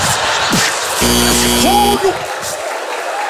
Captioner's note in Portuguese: campainha